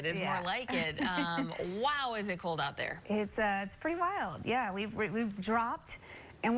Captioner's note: laughter